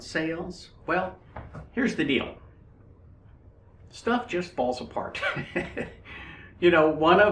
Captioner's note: laughs